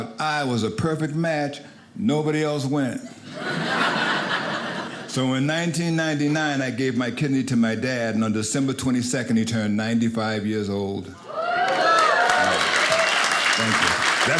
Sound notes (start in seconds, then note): 3.1 audience laughing; 11.2 audience applauding